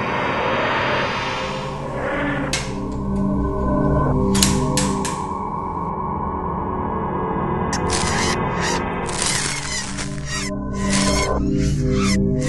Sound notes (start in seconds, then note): 0.3 click; 4.4 clank; 7.7 creature squeals, crunching of stabs